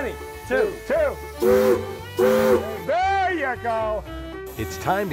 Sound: loud whistle blowing

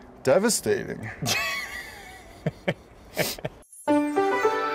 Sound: laughing

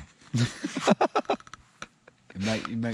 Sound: laughing

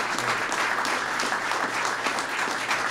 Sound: applause

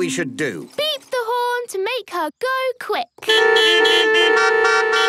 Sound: beeping

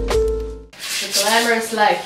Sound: toilet bowl scrubber scratching

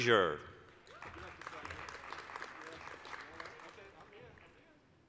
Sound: applause

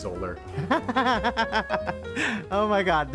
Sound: laughter

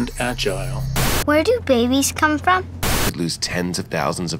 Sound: voiceover

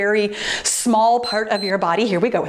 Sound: timer beeps

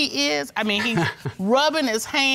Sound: chuckles nervously

